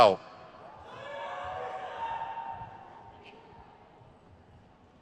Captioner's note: crowd cheers